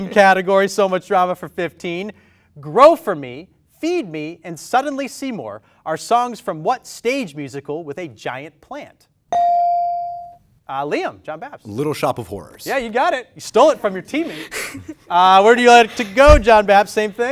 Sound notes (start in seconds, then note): 9.3 ding